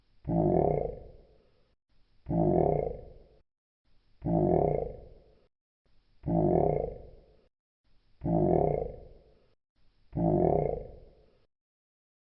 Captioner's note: bullfrog choking